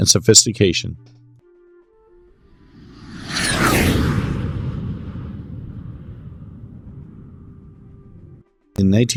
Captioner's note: jet Whoosh